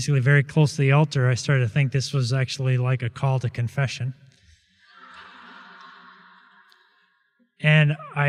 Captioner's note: laughter